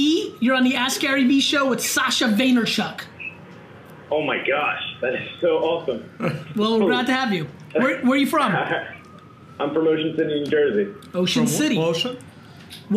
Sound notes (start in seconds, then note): 6.2 laughs